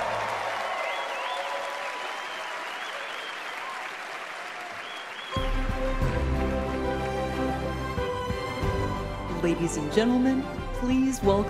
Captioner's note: applause